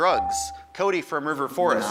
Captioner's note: buzzer dings